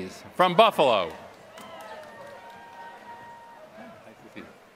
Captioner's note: applause